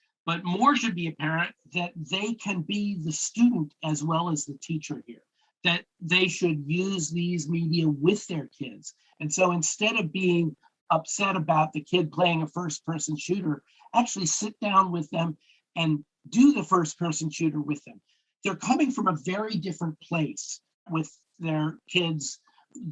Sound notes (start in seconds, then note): none